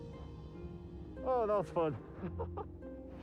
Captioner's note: laughs